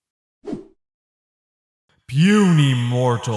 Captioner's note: Swish